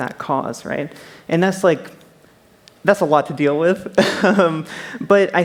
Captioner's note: laughs